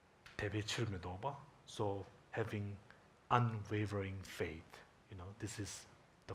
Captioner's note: speaking in Tibetan